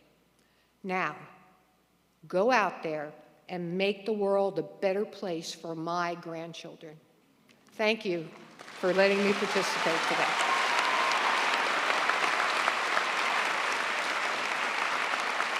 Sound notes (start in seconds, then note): 10.6 crowd applauds